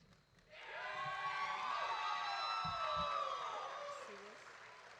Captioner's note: audience cheering